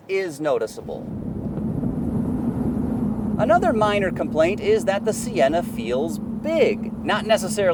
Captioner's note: engine humming